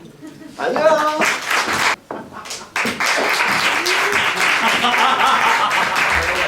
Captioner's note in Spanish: Aplauso